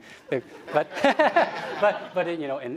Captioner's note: laughter